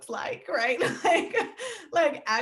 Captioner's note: laughing